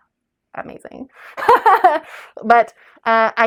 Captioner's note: laugh